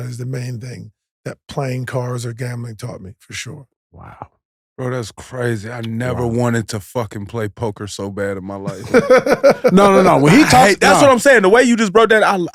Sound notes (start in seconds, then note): 8.6 Maverick laughs